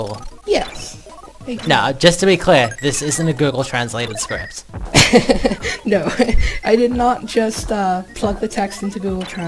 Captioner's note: laughs